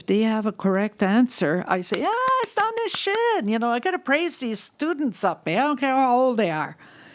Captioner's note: applauds